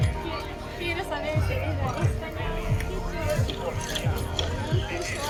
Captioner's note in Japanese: スペイン語